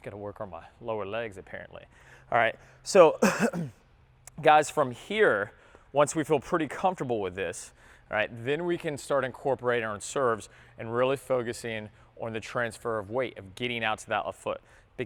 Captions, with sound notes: Got to work on my lower legs apparently. All right so (clears throat) guys from here, once we feel pretty comfortable with this then we can start incorporating our serves and really focus in on the transfer of weight of getting out to that left foot.